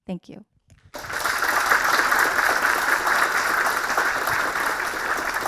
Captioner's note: audience clapping